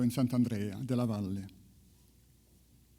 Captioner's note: speaks in foreign language